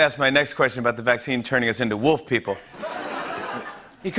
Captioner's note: laughter